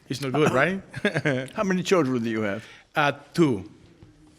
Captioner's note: chuckles